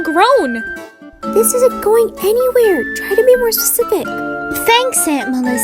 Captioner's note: quietly